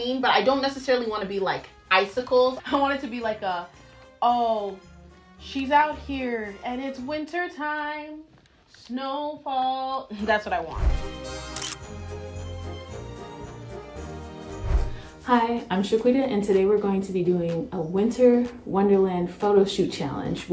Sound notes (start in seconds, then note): 11.3 camera shutter; 11.3 upbeat music